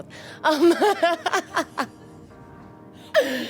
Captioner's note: laughs